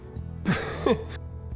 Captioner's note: laughs